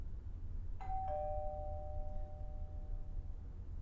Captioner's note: doorbell rings